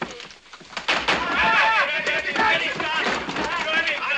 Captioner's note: shouting